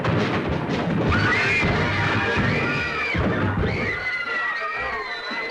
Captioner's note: girls screaming